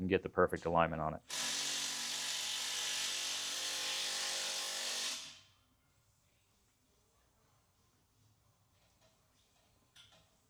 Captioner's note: silence